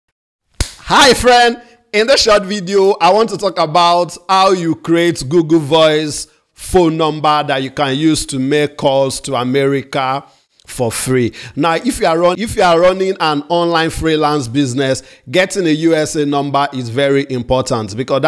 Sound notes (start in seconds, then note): 0.6 fist slapping